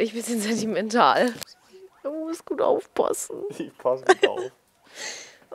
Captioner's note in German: lacht